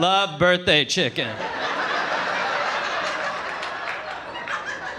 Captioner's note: audience laughing